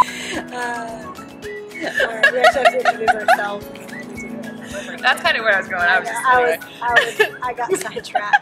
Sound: sigh; laughs

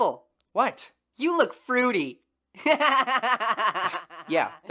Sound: laughs

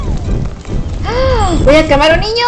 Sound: gasps

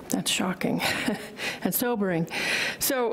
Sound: chuckles

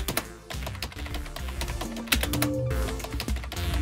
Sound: keyboard ticking; upbeat funk music

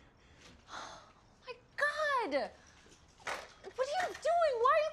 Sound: sighs

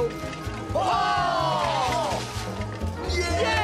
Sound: cheers

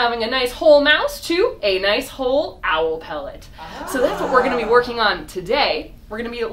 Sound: crowd oohs

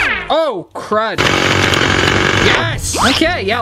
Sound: drilling; drilling noises

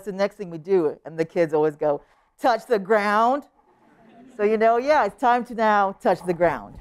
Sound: laughter

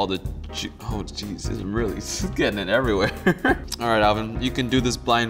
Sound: laughs

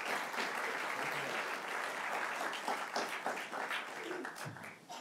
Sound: applause continues

